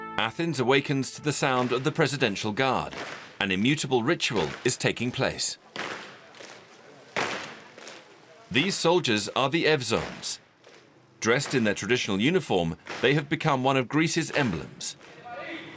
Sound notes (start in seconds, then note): 7.2 boots stomping; 15.5 commander shouting